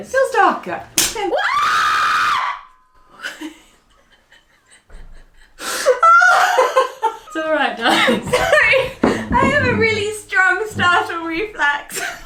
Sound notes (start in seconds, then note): 1.0 clicking; 1.3 screaming; 3.2 laughing